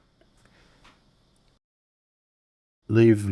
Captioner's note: silence